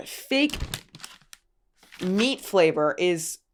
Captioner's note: wrapper crinkles